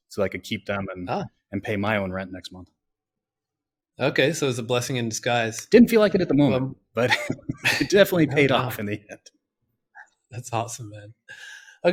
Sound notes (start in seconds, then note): 7.0 laughs